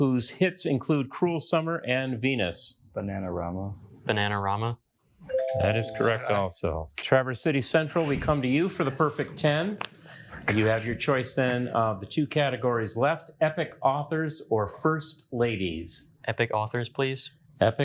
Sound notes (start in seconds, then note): 5.3 bell dings